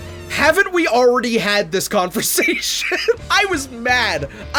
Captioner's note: laughs